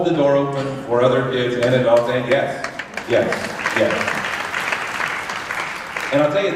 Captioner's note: applause